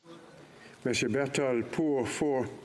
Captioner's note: speaking French